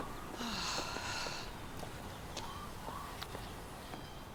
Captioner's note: Laura sighs